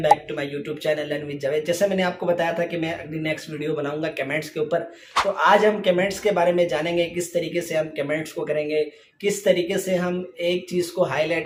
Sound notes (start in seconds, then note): 3.0 Hindi